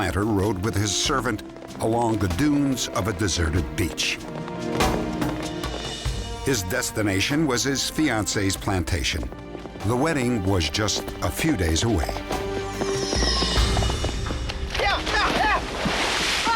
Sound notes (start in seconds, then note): 14.2 yelling